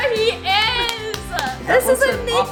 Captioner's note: claps